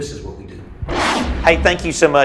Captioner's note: intense whooshing